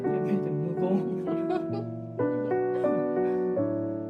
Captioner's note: laughing